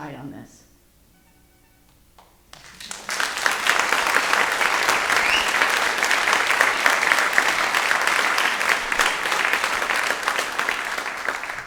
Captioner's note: audience applauds